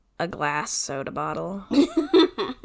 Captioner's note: laughs